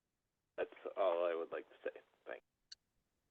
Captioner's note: by phone